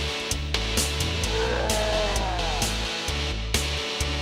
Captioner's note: roaring